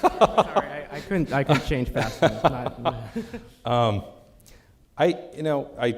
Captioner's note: laughing